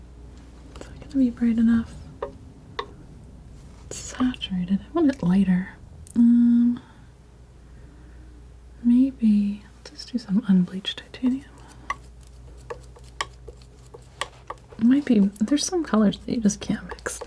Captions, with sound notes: It's not gonna be bright enough Saturated, I want it lighter Umm Maybe, let's just do some unbleached titanium (tapping) Might be, there's some colors that you just can't mix